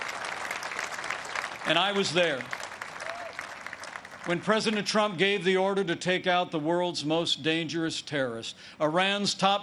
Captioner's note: applause